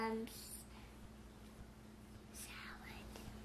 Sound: whisper

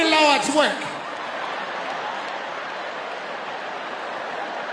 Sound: audience laughing

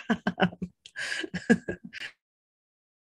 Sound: laughs

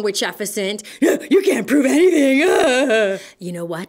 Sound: evil-laughs

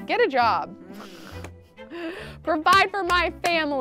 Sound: laughs

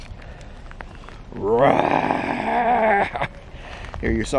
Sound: growl

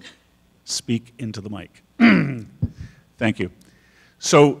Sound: clears throat

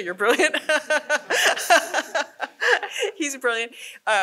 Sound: laughs

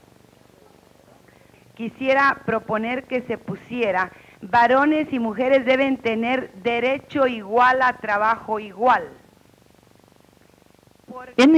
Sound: speaking Spanish

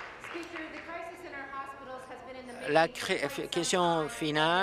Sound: applause

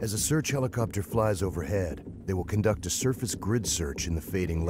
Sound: voiceover

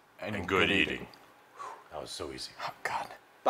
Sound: exhales

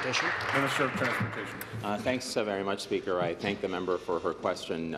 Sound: applause

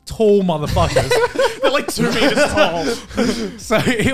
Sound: laughing

